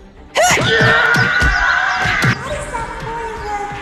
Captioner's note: Fairy Catchers scream